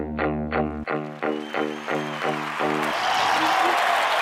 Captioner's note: applause